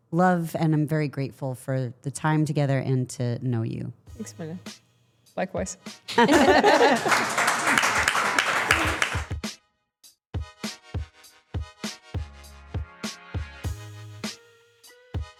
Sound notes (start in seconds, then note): 6.1 everyone chuckling; 6.1 everyone applauding; 8.6 hard-hitting music